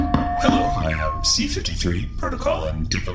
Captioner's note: taps the mic